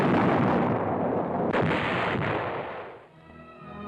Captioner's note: explosion; cannon fire